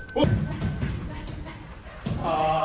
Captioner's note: panting